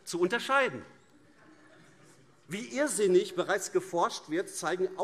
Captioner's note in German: Heiterkeit AfD